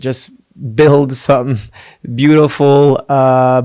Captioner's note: foreign language